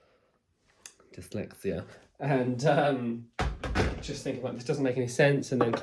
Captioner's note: laughs